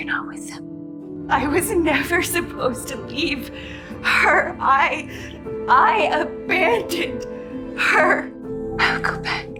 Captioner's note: voiceover